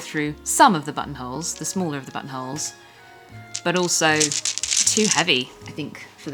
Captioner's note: buttonsj ingling